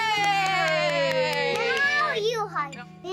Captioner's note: clapping